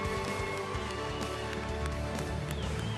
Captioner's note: applause